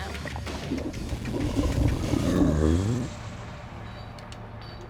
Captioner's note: burps